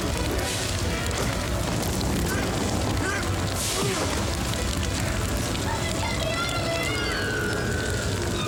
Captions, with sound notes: (smacking and grunting) Come and get me out of here!